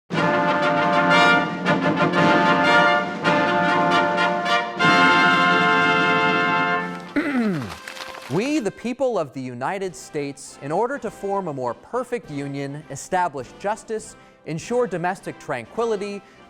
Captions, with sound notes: (triumphant music) - (clears throat) "We the People of the United States, "in order to form a more perfect union, establish justice, "ensure domestic tranquility,